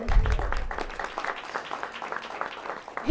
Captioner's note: applause